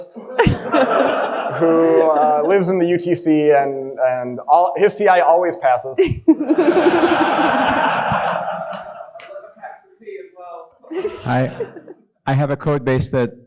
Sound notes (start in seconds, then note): 6.1 audience lauging